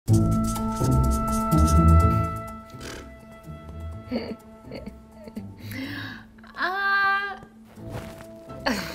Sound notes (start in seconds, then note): 2.6 blows raspberry